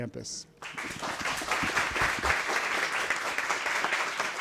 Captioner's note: audience applauds